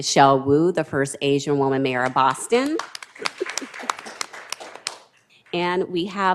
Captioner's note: applause